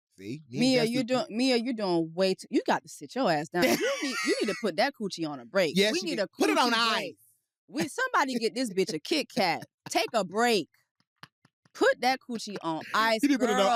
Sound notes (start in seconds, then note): 3.6 laughs; 9.3 laughs